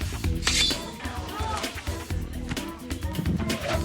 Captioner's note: swords slicing